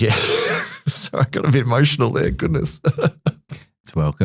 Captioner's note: laughs